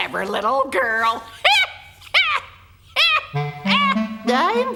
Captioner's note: cackles